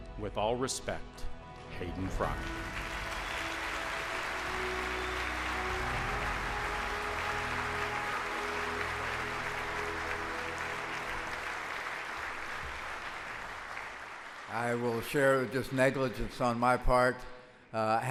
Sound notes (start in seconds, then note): 2.7 audience applauds; 2.7 soft music